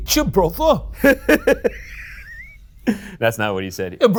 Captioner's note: laughs